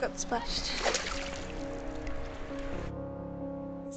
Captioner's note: water splashes